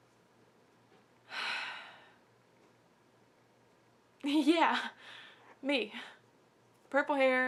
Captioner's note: sigh